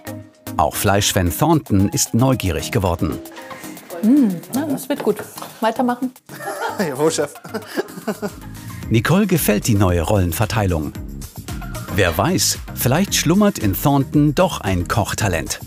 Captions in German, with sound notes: Auch Fleischfan Thornton ist neugierig geworden. Mmmh, das wird gut, weiter machen. - Jawohl, Chef. (Lachen) Nicole gefällt die neue Rollenverteilung. Wer weiß, vielleicht schlummert in Thornton doch ein Kochtalent.